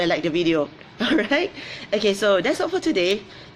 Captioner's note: laughs